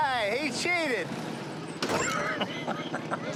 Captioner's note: laughs